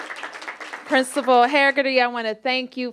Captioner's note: applause